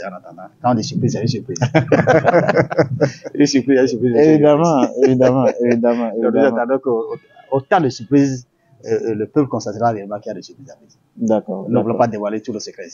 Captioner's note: laughs